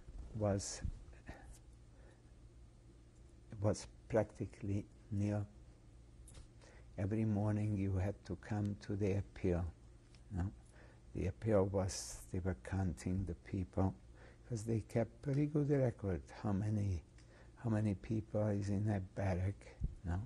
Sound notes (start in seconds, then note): 0.7 pauses for 3 seconds